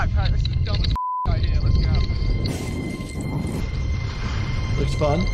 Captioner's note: beep